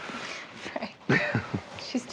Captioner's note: both laughing